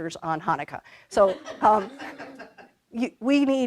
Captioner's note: laughter